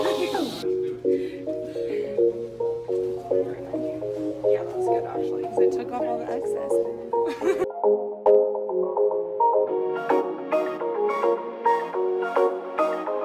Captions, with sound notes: - 'Cause I took off all the excesses (laughs). (upbeat music)